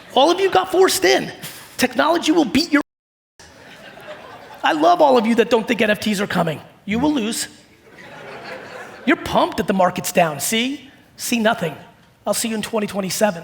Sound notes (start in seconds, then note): 7.7 audience laughing